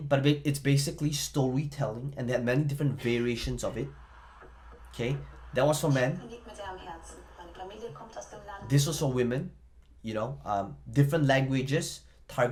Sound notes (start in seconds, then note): 7.0 speaks in foreign